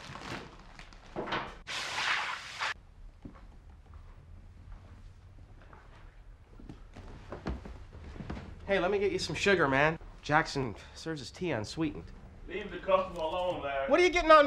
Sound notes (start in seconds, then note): 1.7 oil sizzling